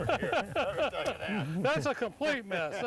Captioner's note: laughs